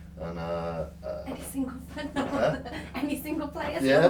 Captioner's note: laughs